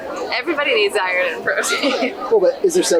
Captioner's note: laughs